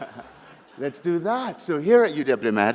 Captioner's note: laughter